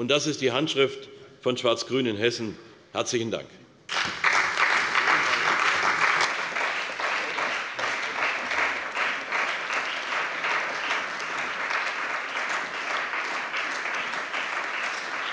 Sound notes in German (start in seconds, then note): 3.8 Beifall bei der CDU und dem BÜNDNIS 90/DIE GRÜNEN